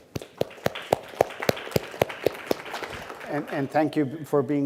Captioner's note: audience applauds